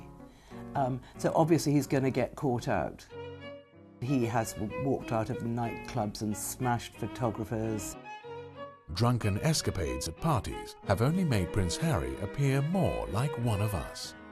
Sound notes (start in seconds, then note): 8.5 voiceover